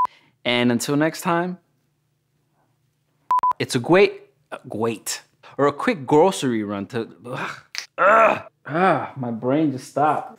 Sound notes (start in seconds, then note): 7.9 various groaning noises